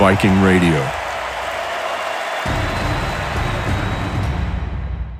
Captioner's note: crowd cheering